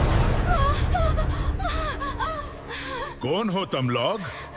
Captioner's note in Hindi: रोने की आवाज़; हंसी